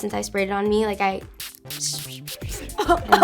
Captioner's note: perfume spraying; coughing